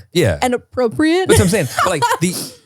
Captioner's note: laughs